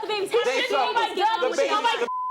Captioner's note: group yelling